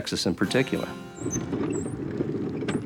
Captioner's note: wheel Squeaking